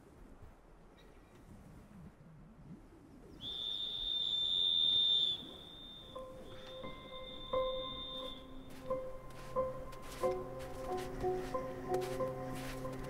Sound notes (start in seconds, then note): 3.3 whistling; 10.4 footsteps